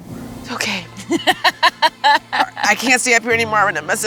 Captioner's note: laughing